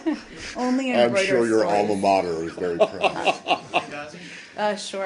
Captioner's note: laughter